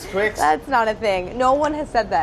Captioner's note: laughs